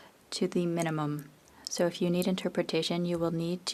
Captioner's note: speaking French